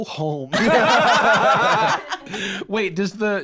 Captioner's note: all laughing